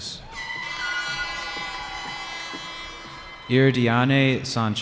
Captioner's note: cheering